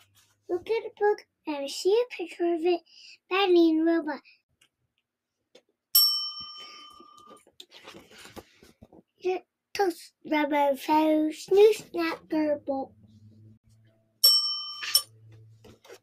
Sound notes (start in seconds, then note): 5.9 bell dings; 14.2 bell dings